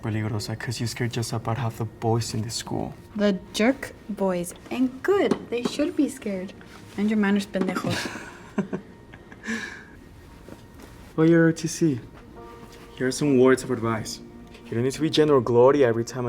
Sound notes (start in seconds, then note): 7.8 laughs; 7.8 spanish